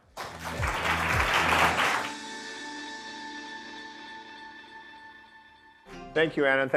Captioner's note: audience clapping; upbeat music